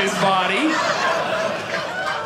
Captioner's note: audience laughing